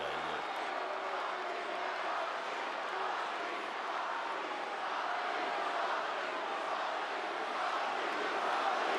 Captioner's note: applause